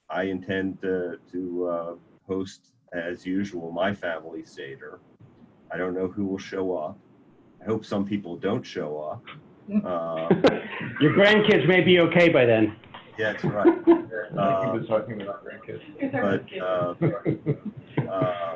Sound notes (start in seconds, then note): 9.8 laughing; 16.1 laughing